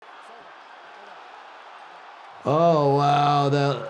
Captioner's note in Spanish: la audiencia aplaude